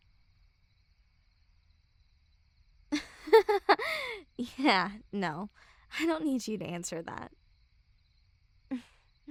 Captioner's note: chuckle; soft grunt